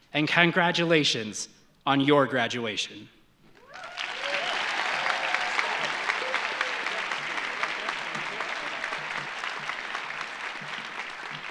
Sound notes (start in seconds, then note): 3.6 audience applauding; 3.6 audience cheering